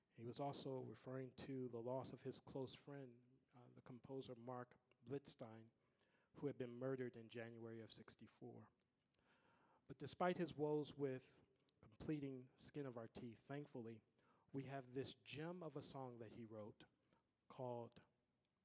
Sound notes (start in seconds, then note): none